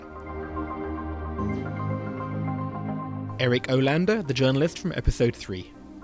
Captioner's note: voiceover